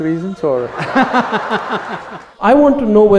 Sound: laughter

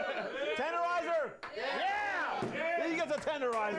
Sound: audience cheering

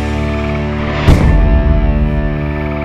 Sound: stamp noise

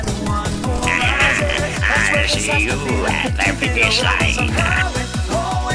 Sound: mischievous Laugh

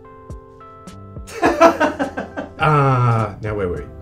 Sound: director laughs

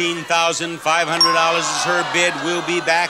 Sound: buzzer pings

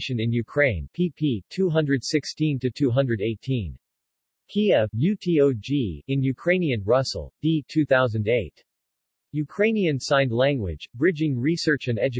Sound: in Ukrainian

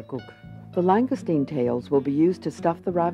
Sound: voiceover

